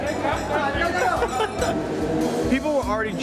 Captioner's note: laughing; mixed chatter